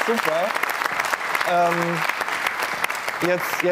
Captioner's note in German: Applaus